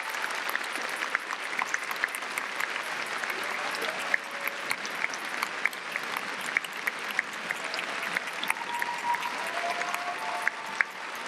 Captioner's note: applause